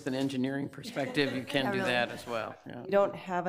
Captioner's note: committee members laugh